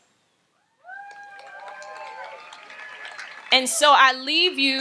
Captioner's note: audience applauds and cheers